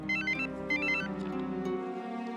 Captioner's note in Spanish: suena el celular